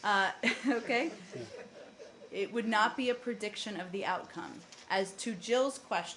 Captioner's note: laughter